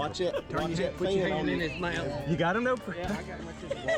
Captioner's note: fishermen cheering; upbeat music